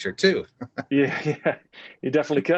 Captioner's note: laughter